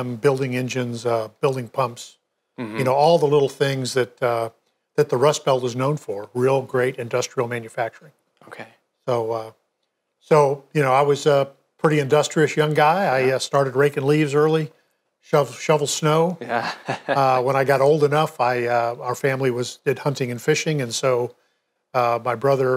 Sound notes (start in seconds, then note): 16.4 laughs